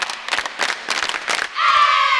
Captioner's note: clapping